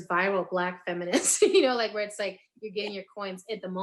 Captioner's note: laughing